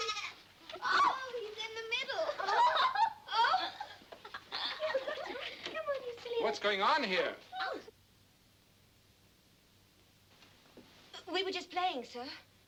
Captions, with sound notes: Oh, he's in the middle. (all laughing) - What's going on here? - We were just playing, sir.